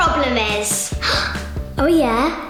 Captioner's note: gasping